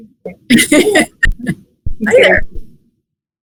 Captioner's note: laughs